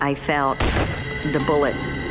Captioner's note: gun shot